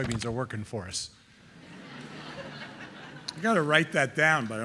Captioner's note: audience laughing